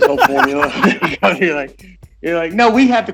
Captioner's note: laughing